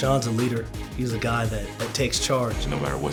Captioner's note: none